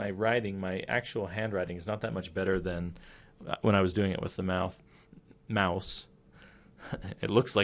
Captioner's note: chuckling